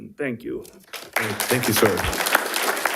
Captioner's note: audience applauding